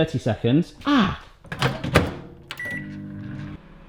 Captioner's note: slamming; beeps